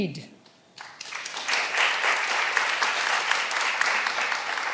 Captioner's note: all applauding